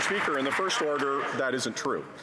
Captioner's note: some Applause